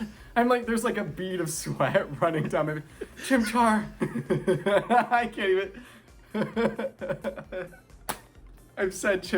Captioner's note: stumbled over words; laughing